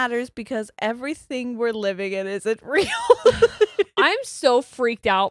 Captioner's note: giggles